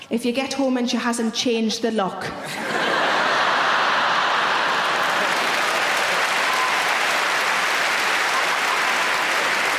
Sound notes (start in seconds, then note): 2.4 audience laughing; 2.7 audience applauding